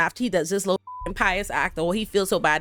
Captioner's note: beep